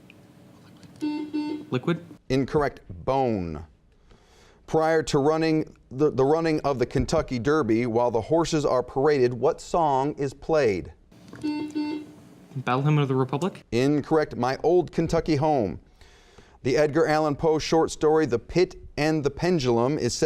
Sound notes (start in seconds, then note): 1.0 buzzing; 11.3 buzzing